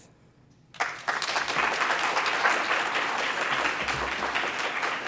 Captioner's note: applause